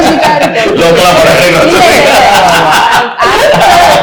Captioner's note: laughs